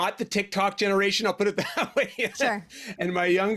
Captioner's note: laughing